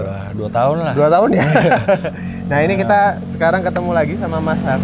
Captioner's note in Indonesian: tertawa